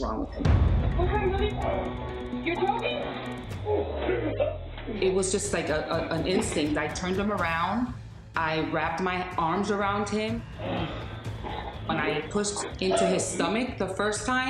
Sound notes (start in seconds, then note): 3.2 gasping; 10.5 gasping